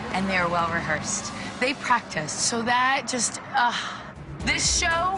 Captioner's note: sighs